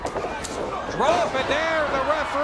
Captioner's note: bodies thud